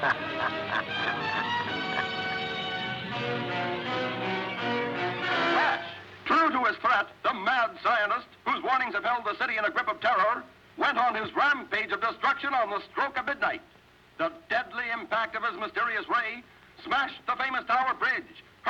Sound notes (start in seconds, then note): 0.0 cackling; 1.2 intense, dramatic music; 5.7 radio Announcer